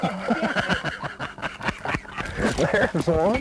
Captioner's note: laughter